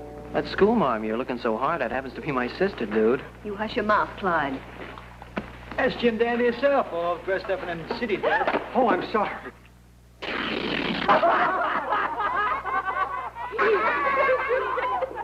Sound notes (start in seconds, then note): 10.2 pants tear; 11.0 laughter